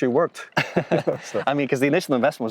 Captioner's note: both laughing